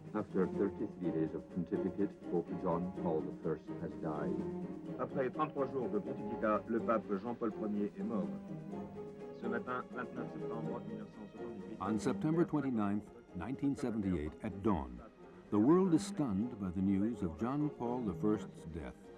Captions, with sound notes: After 33 days of pontificate, Pope John Paul I has died. [Foreign spoken audio] On September 29th, 1978, at dawn, the world was stunned by the news of John Paul I's death